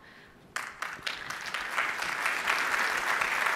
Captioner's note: applause